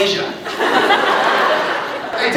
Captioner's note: laughs